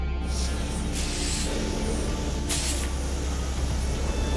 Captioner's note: suit hissing